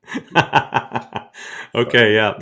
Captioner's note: laughing